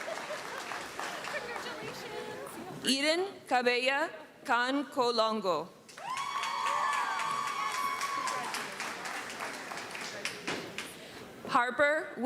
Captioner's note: cheering; screaming and cheering; applause